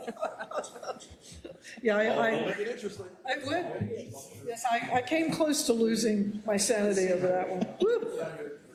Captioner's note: laugh